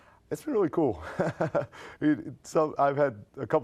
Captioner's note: laughs